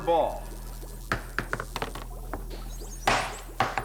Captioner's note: clattering